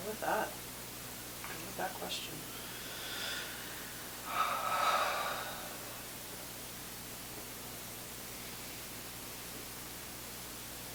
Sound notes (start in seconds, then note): 2.5 inhaling; 2.5 exhaling